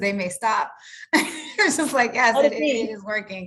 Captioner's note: chuckles